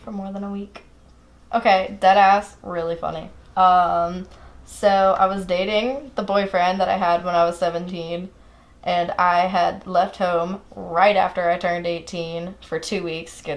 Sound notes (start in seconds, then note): none